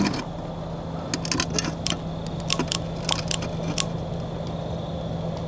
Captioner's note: flashlight clicking